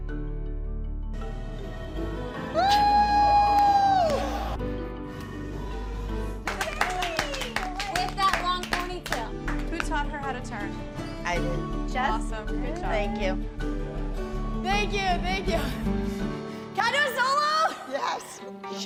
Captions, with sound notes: [cheering] [applause] With that long pony tail. Who taught her how to turn? I did. Awesome. Good job. Thank you. Thank you. Thank you. Can I do a solo? Yes.